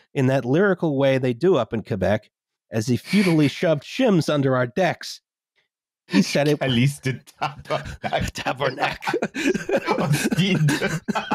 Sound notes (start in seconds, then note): 6.1 laughing; 7.4 laughter